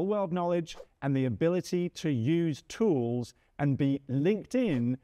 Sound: screen whooshes

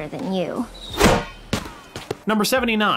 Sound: volleyball smacks

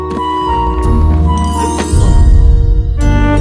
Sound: thud

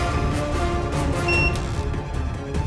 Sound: machine beeps

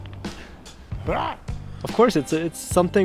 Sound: growling yell

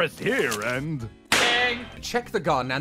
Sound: bang!

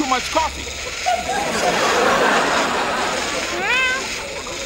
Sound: audience laughs

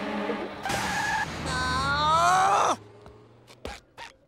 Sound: groaning

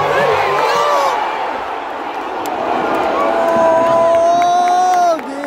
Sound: clap

